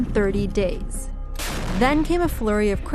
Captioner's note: explosion